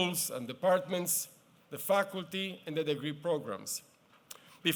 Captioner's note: none